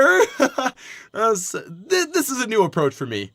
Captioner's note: baseball laughs; baseball laughs... awkwardly